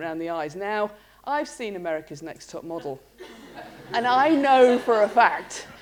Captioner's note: laughter